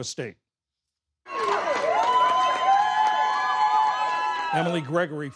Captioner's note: cheering